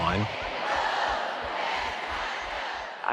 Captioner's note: chanting